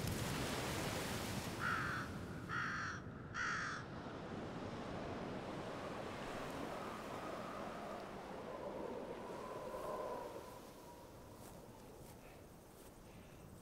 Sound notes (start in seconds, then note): 2.4 a crow caws repeatedly; 6.3 wind whistling